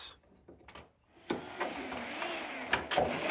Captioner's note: machine noise